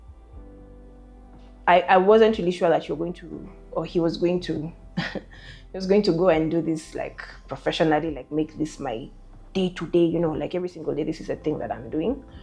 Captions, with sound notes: I wasn't really sure that you were going to, or he was going to (laughs) he was going to go and do this like professionally, like make this my day-to-day, you know, like every single day this is the thing that I'm doing.